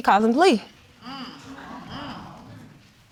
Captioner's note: audience murmuring